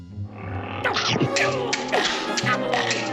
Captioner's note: growling, chomping